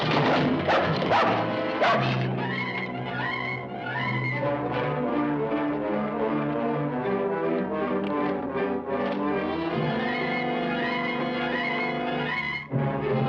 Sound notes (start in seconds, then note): 1.8 dog barking; 3.9 suspenseful instrumental music